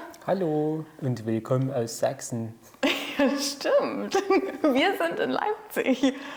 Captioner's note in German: spricht sächsisch